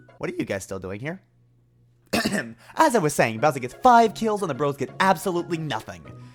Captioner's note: ahem